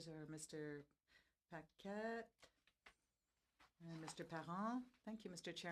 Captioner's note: speaking French